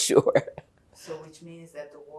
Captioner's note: laughing